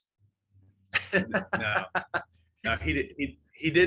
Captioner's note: laughing